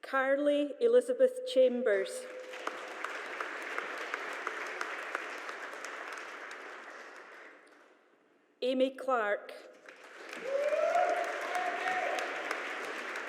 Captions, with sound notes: Carly Elizabeth Chambers. (AUDIENCE APPLAUDING) Aimee Clark. (AUDIENCE APPLAUDING)